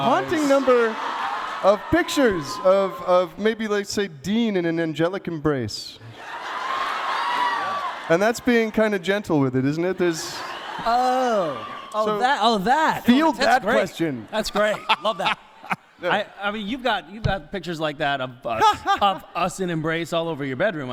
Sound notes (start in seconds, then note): 6.0 crowd cheers